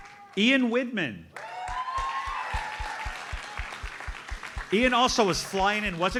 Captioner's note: audience applauds; audience cheers and applauds